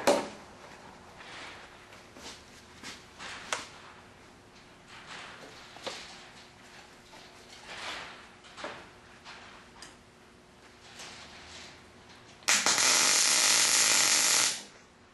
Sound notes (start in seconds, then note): 2.0 welding